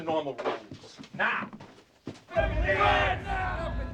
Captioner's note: men shouting